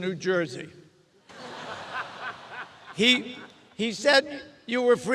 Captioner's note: audience laughs